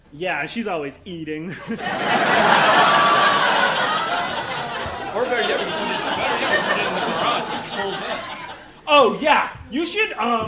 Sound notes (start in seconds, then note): 1.5 audience laughing